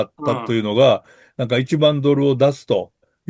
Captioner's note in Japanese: 咳払い